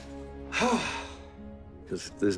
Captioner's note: sighs